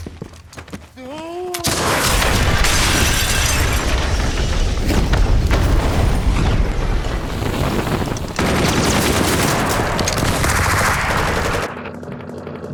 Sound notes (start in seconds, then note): 3.1 explosion rumbling; 8.5 gunshots blasting